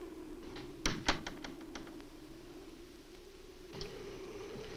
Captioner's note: door closes